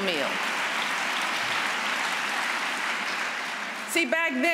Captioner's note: applause